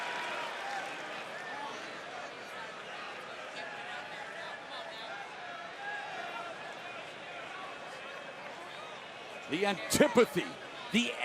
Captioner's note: crowd chatter